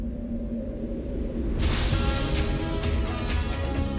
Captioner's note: logo shatters; dramatic music